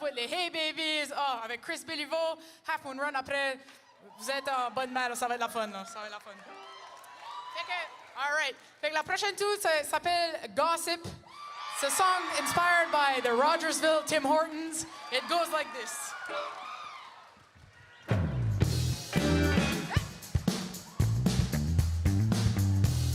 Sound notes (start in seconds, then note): 5.9 speaking French